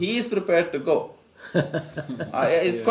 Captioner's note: laughs